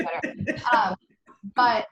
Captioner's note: laughs